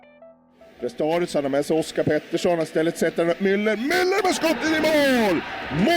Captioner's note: commentator cheering in foreign language